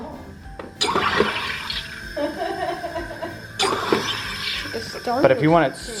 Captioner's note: loud whooshing; laughs